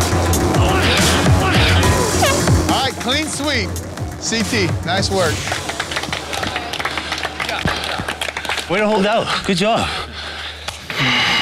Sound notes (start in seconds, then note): 1.5 air horn blows; 5.0 contestants clap